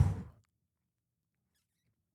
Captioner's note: exhales